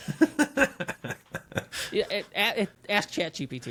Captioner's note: laughing